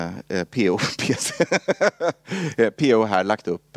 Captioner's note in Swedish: Skrattar